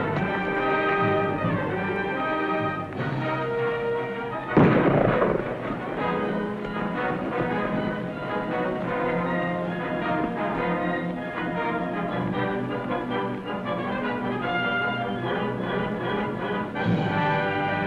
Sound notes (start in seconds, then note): 4.5 gunshot; 8.6 tense music